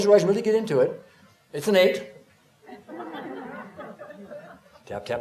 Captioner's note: laughter